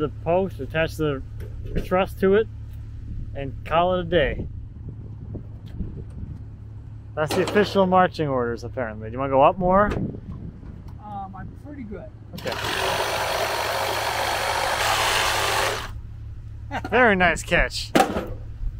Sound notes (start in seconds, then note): 12.3 saw cutting wood; 16.7 laughing